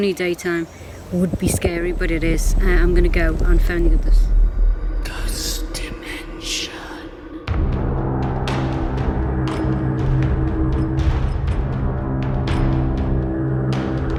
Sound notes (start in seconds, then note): 4.6 dramatic music; 5.5 distorted Voice; 7.4 dramatic music